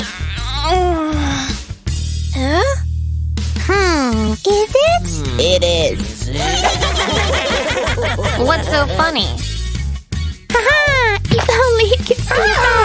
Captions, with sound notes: You'll thank me later when you become Instafamous. Hehehe! *keeps snoring* *sounds of stretching* Eh?